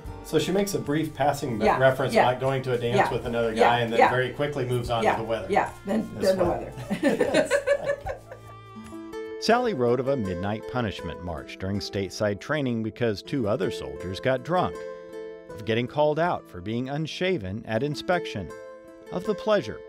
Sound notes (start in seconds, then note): 6.5 laughs